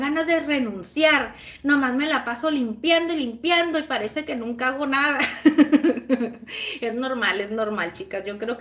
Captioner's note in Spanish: risas